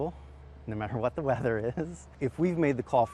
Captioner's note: chuckles